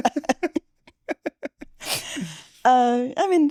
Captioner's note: laughter